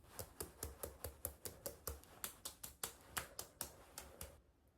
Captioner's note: tap tap tap